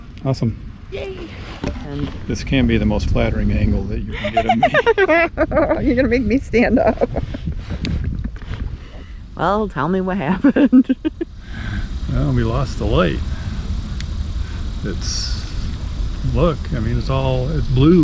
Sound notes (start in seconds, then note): 4.0 laugh